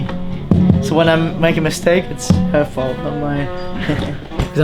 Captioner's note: laughs